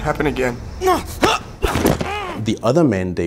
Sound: groaning

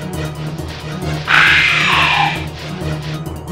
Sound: Hunter Growl

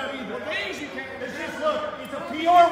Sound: men yelling

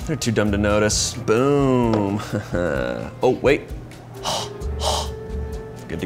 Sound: breathes

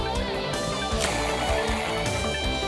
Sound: slurping

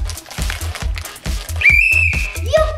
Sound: blowing a whistle

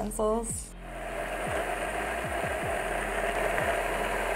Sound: blitzer whirring

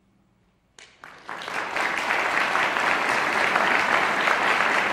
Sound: audience applauding

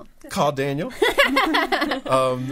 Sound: all laughing

